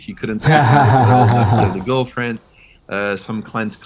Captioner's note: laughing